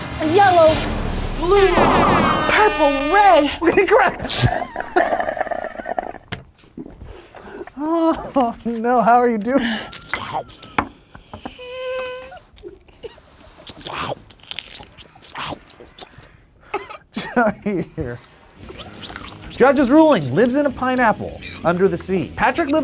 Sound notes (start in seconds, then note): 0.1 horn blares; 4.2 slurps; 11.4 food chomping; 11.6 whimpers